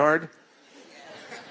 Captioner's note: laughter